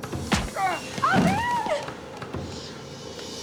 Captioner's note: groans